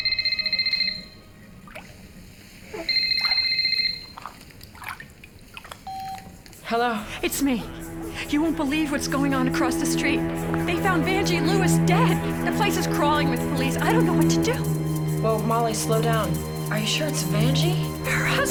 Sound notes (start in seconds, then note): 0.0 telephone ringing; 5.9 telephone beeping